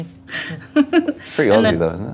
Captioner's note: laughs